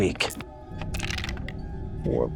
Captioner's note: dice clink